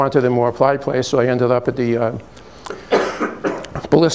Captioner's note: cough in background